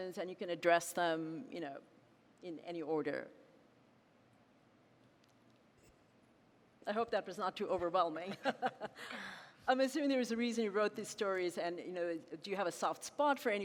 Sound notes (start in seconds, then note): 8.3 laughing